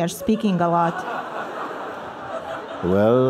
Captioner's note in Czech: Smích